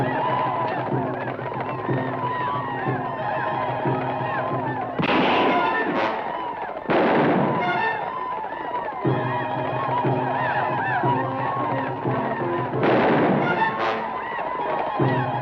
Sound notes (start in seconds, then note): 4.7 guns fire; 11.0 native Americans howl; 12.8 gun fires